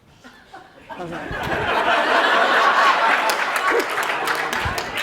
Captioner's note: laughter